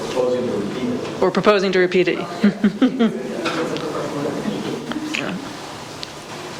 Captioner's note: laughs